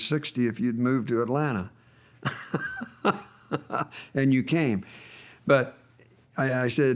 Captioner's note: laughs